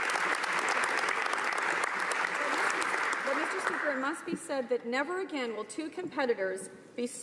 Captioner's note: applause